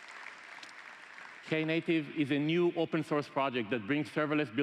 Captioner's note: applause